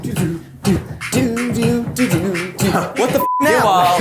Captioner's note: humming